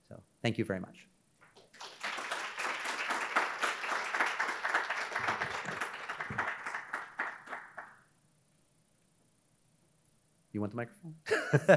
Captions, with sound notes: so thank you very much. (audience applauding) You want the microphone? (laughs)